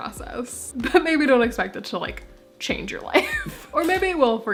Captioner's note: laughing